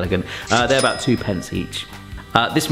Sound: bell dings

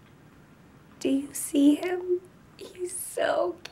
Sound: quiet voice

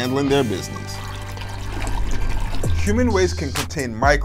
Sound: toilet flushes

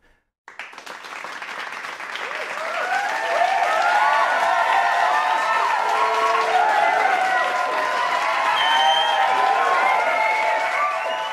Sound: cheering and clapping

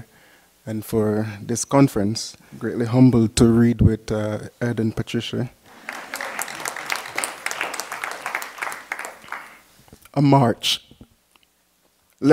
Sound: applause

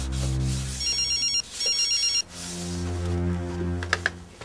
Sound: phone rings

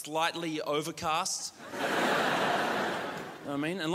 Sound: crowd laughs

